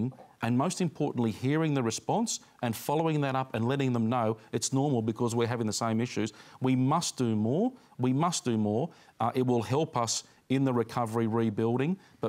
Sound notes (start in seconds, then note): none